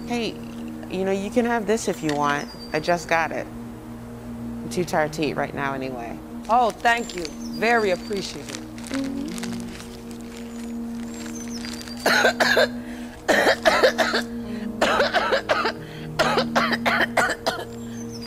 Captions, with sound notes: - Hey, you can have this if you want. I just got it. I'm too tired to eat right now anyway. - Oh thank you, very appreciative. (paper rustling) (lady coughing hysterically)